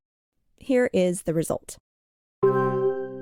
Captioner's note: the Transaction Tone- sound